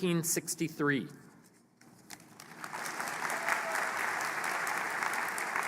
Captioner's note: applause